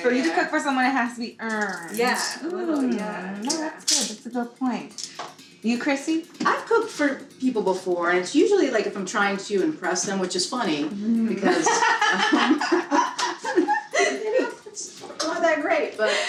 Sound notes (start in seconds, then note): 11.4 everyone laughing